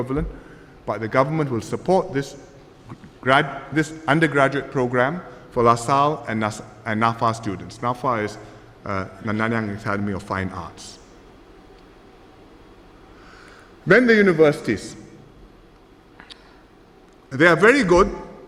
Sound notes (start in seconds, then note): none